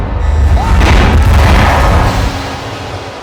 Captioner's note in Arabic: يصرخ